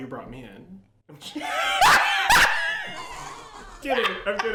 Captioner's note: laughs